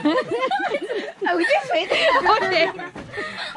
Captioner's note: laughing